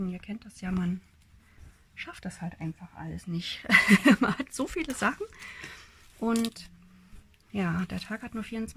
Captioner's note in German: gelächter